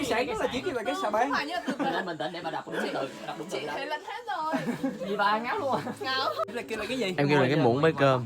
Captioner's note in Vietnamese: Tiếng cười